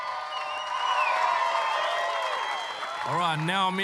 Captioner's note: cheering, applause